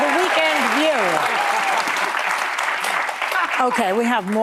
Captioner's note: audience applauding